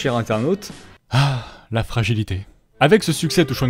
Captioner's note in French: soupir